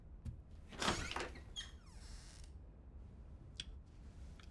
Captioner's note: door creaks